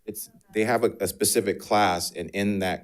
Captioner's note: speaks faintly